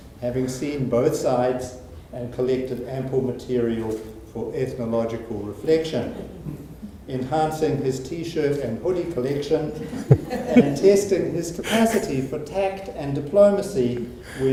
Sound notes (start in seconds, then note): 6.1 audience chuckling; 9.8 audience laughing